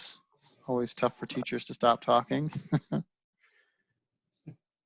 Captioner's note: chuckles